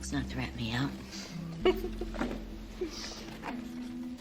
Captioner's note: laughs